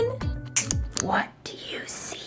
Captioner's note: snap